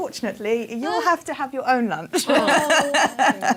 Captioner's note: laughter